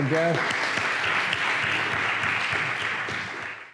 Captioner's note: applause